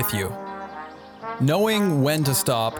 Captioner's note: birds chirping